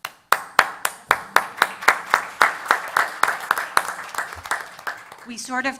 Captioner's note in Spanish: Aplausos